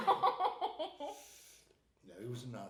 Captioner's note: laughing